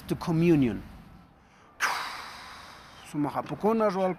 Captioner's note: blowing; speaking Quechua